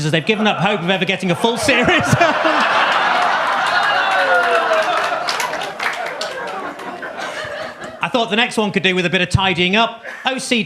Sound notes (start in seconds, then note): 1.6 audience claps; 2.3 audience laughs; 10.0 laughs